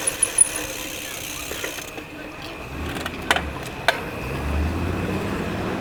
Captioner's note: joeys chattering